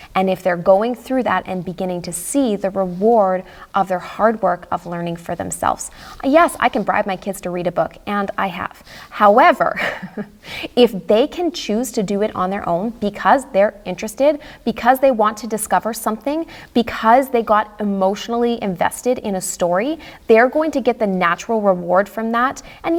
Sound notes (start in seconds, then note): 9.7 chuckles